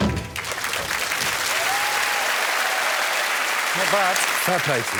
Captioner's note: applause